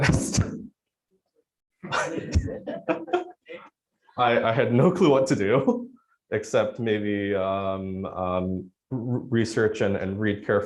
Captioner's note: laughs